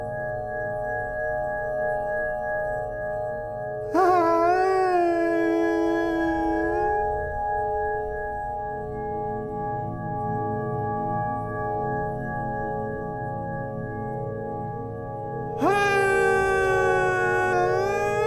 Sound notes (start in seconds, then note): 3.9 laughs manically; 15.6 laughs manically